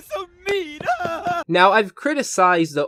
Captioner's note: crying